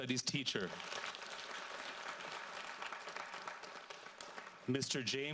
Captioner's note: audience applauds